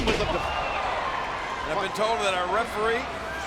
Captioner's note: bodies thud